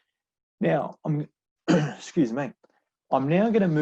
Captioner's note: coughs